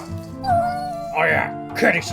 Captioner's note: cat meows